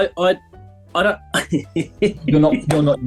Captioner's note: chuckling